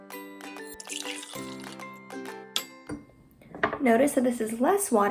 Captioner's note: water pouring